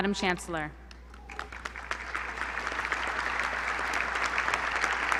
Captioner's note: applause